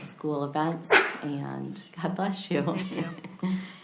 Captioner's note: woman sneezes; laughs